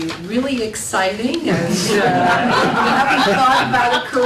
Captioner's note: laughter